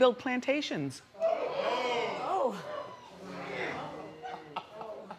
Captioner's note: crowd exclaims